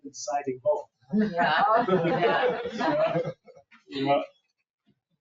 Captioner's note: people laugh